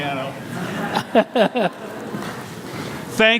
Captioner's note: everyone laughs